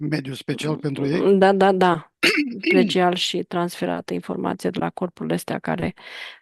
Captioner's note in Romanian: voce dreasă